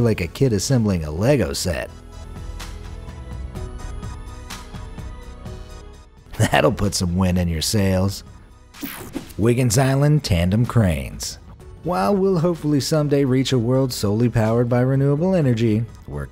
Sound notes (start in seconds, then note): 2.7 upbeat music; 6.3 chuckles; 8.8 image swooshing; 8.8 image buzzing